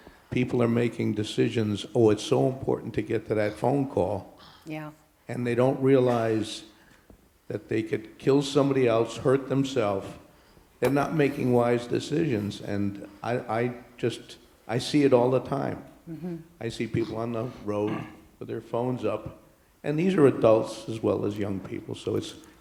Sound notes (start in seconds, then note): 5.6 voiceover